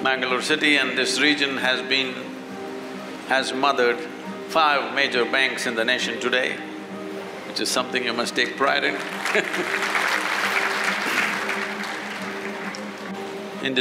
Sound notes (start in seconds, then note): 8.9 applause; 9.1 laughs